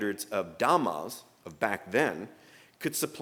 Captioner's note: speaking german